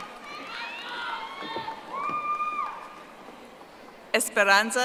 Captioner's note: audience applauding